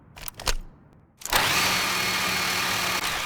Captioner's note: vroom